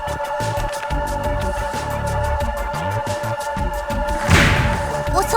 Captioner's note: muted reading